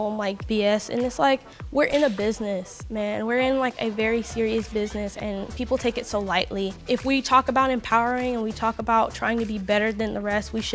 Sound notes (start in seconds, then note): none